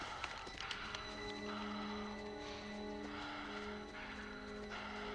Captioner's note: soldier panting